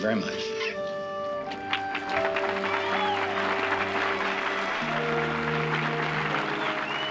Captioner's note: audience cheers and applauds